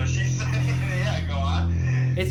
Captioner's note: laughs